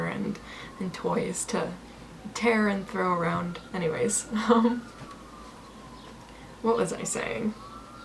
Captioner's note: giggles